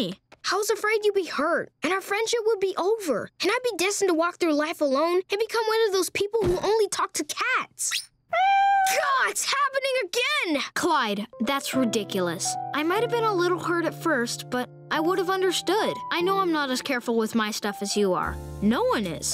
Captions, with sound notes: I was afraid you'd be hurt and our friendship would be over. And I'd be destined to walk through life alone and become one of those people who only talk to cats. [meowing] Gah! It's happening again! Clyde, that's ridiculous. I might have been a little hurt at first, but I would have understood. I know I'm not as careful with my stuff as you are. No one is.